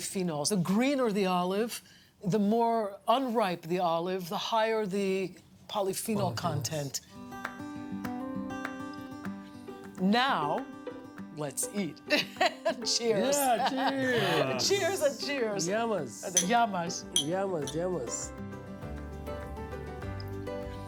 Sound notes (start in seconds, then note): 12.1 laughs